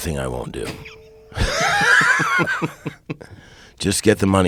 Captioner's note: laughing